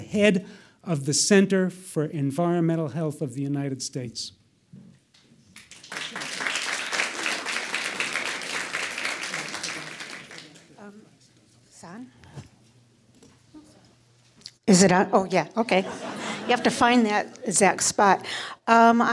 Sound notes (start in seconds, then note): 5.5 audience applauds